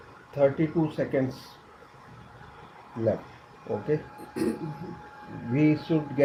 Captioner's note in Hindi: गला साफ़ करने की आवाज़